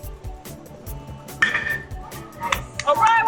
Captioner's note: bat pings